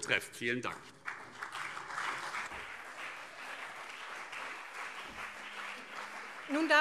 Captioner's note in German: Beifall CDU und SPD